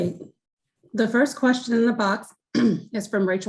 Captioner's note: clears throat